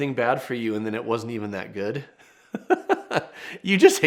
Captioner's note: laughs